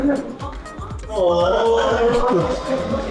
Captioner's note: laughing